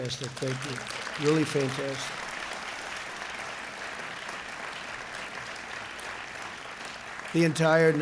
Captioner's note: applause